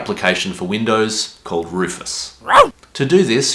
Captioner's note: dog bark sound